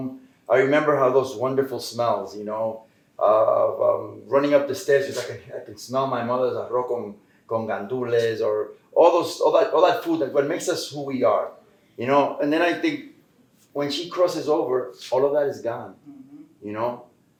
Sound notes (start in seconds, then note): 7.0 Spanish